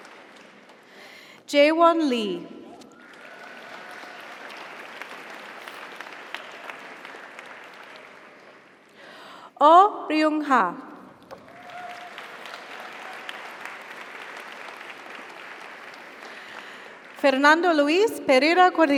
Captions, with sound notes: - Congratulations. You're welcome. - Jaewon Lee. (audience applauds) (audience cheers) Oh Ruyungha. (audience applauds) (audience cheers) Fernando Luis Pereira Cordeiro.